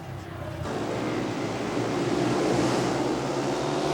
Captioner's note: engines roar